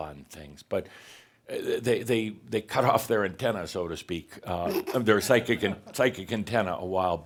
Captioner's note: snickers